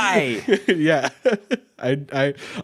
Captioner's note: laughs